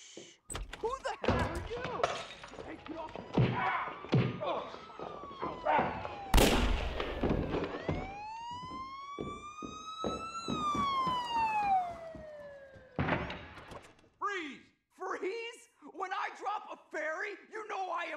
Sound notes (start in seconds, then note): 3.6 smack; 5.9 siren; 6.3 gunshot; 7.9 thud; 8.9 siren; 9.9 footsteps; 13.0 thud